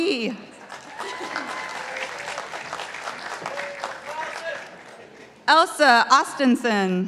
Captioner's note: participants applauding